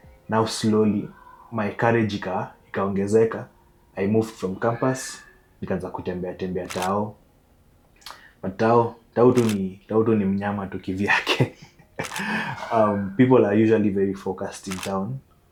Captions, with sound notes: Now, after slowly building up my courage, I moved from campus, and started walking around the CBD. But the CBD is just a monster of its own, (Laughs) Um, people are usually very focused in the CBD,